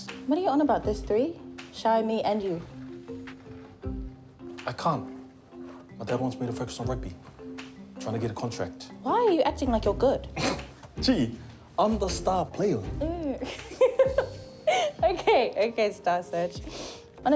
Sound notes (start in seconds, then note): 10.5 snorts; 13.0 laughs; 16.7 sniffs